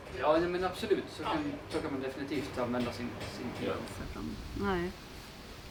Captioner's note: speaking native language